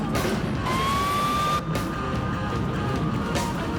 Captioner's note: siren wails